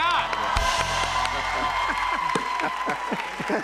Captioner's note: cheers and applause